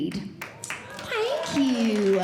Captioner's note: audience Clapping